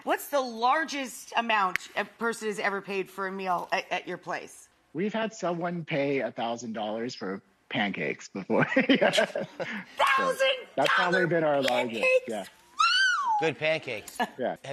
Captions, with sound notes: What's the largest amount a person's ever paid for a meal at your place? We've had someone pay $1000 for pancakes before. (laughing) $1000 pancakes! That's not even our largest. Yeah. Wow! Good pancakes. Yeah.